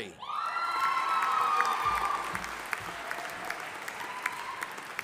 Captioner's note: audience applauding